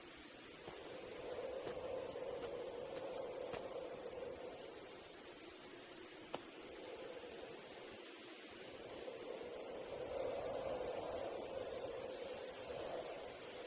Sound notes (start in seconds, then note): 0.7 wind whistling continues; 9.9 wind whistling continues